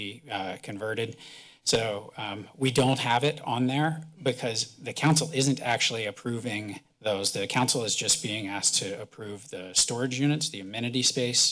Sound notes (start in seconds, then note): none